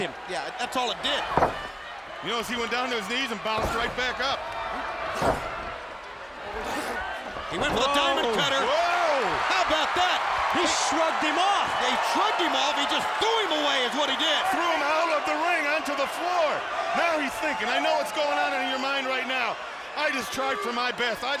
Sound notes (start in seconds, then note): 5.1 crowd cheering